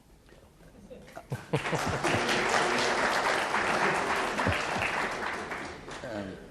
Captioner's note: audience clapping; chuckles